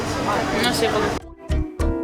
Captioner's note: in Spanish